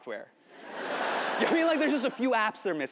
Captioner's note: audience laughing